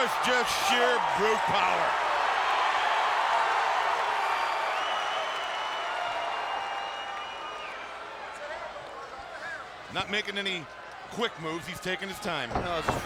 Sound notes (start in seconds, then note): 0.0 crowd cheering; 2.8 crowd cheering; 2.8 crowd whistling